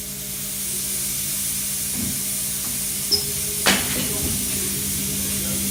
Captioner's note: smoke machine hissing